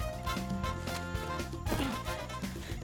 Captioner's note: thud